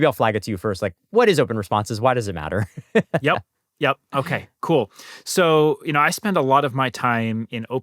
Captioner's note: laughter